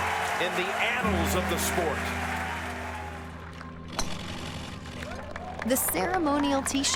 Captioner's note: crowd cheers